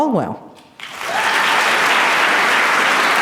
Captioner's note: applause